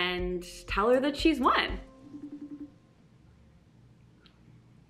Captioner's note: phone rings